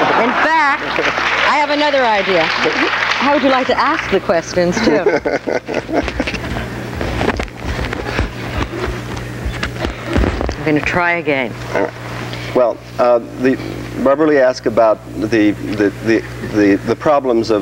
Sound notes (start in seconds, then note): 4.6 laughs